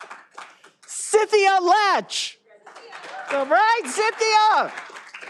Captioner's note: all applauding